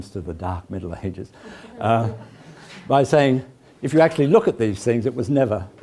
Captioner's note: laugh